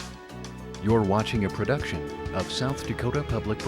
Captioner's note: voiceover